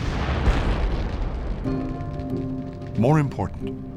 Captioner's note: explosion